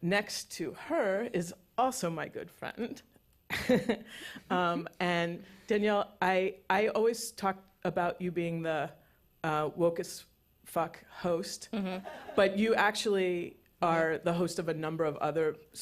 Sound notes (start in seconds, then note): 3.5 chuckles; 12.0 laughter